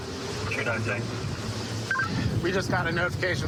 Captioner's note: radio communication